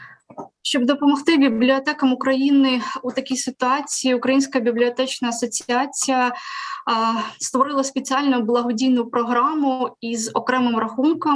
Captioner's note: foreign Language